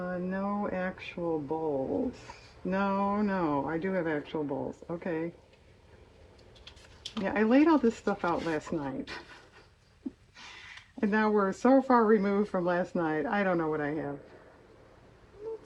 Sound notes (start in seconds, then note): 9.6 laughs